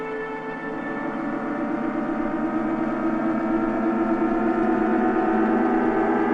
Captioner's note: intense whirring